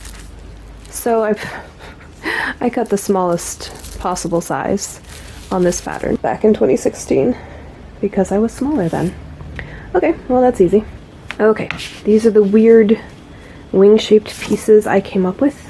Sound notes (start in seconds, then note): 1.3 laughs